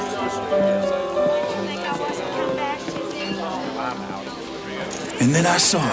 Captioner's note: piano music continues; patrons chatter